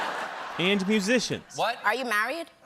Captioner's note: laughter